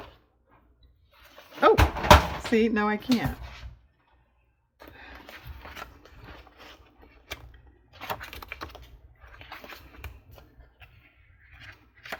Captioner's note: box falls